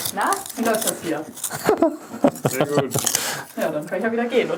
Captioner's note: laughing